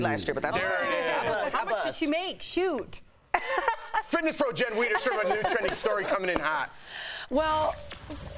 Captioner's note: laughter